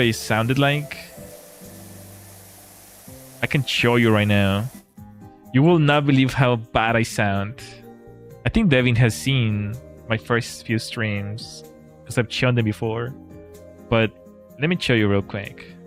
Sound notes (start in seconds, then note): none